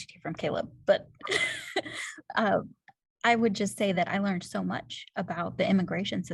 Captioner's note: laughter